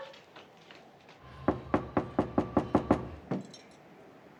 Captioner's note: knock On Door